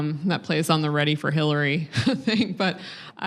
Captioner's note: laughs